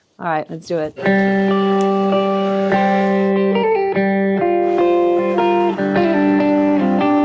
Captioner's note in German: Energische Musik; Zischen eines Streichholzes